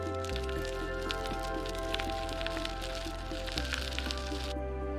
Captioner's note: bicycle tires turning